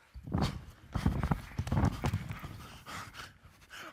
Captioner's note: group panting